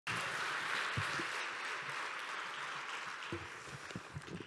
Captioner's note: clapping